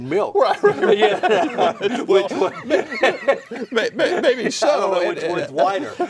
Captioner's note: all laugh and talk indistinctly